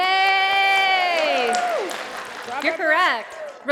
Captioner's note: applause